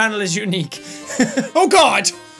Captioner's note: laughs